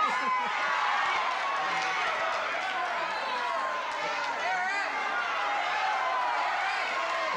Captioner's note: audience shouting